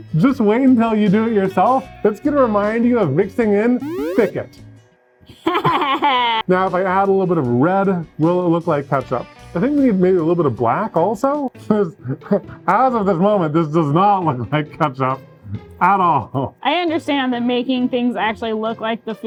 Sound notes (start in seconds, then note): 5.3 laughing